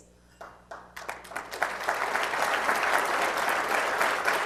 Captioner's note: applause